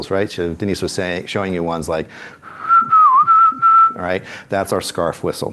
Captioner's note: whistles